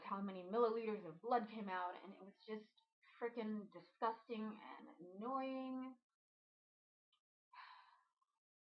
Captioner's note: sigh